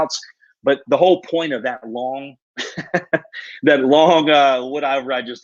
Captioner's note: laughs